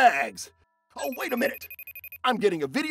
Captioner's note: telephone ringing